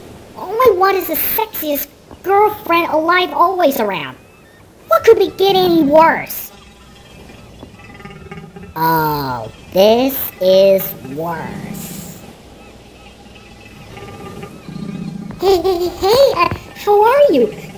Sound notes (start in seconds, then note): 6.6 Beach Beast growls; 12.8 growls